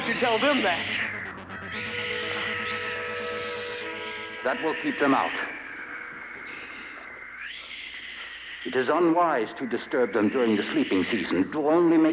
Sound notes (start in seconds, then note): 6.3 Sleestak wheezing